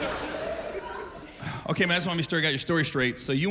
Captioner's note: laughter